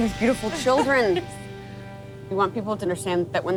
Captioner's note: laughs